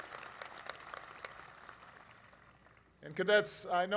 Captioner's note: laughter and applause